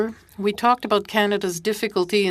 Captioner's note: speaking French